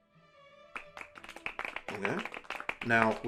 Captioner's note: polite Applause